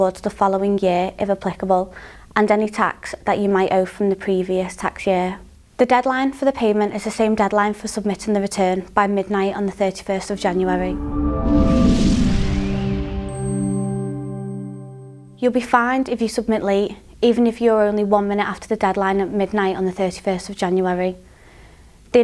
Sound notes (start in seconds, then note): 10.4 melodic sting; 11.0 bell dinging